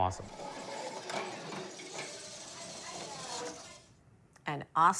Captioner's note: motor whirring